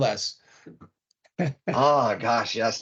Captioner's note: laughing